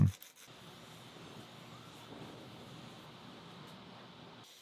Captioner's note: torch hissing